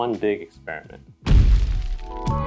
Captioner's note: boom